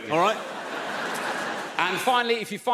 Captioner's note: audience laughs